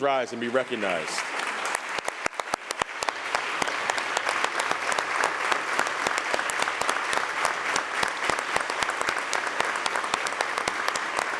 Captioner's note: applause